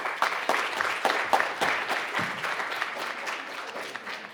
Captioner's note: crowd applauding